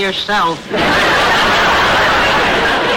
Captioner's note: audience laughter